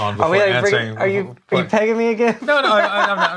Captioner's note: laughs